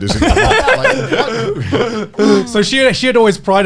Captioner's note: all laughing